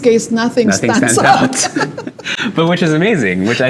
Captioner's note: laughs